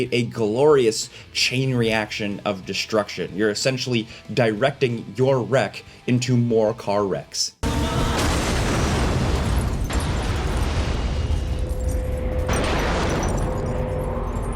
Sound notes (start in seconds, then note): 8.2 metal crashing; 8.6 glass shattering